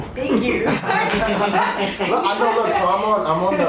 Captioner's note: laughing